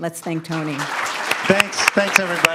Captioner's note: audience applauds